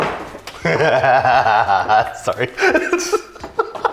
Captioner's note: laughs menacingly